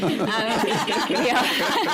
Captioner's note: laughter